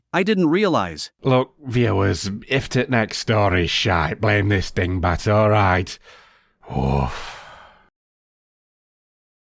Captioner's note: sigh